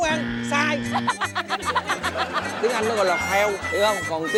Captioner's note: laugh